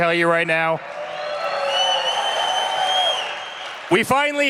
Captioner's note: cheering